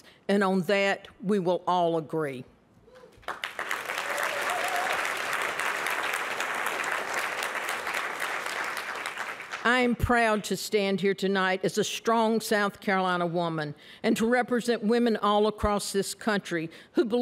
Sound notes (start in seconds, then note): 3.1 applause